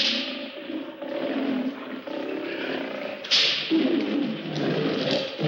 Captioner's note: the sound of a whip and roaring tigers